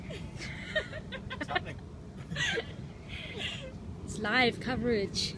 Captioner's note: laugh